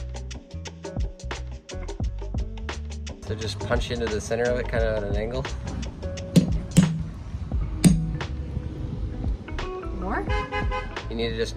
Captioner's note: hammering